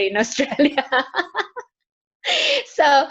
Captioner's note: laughs